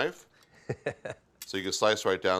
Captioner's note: laughs